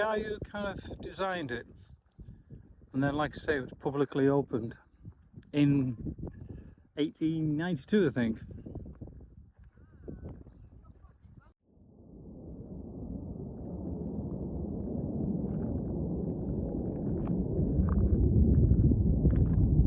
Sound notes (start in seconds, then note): 8.3 jet engine noise